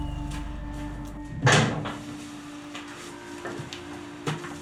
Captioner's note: massive door opening